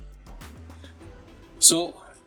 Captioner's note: silence